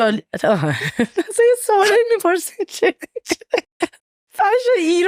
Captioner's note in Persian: خنده; خنده